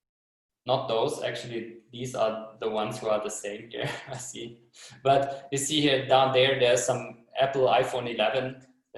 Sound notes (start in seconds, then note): 3.7 chuckles